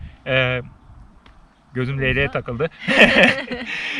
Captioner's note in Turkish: kahkaha